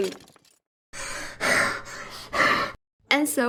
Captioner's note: panting